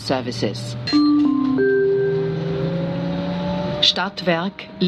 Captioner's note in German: Gong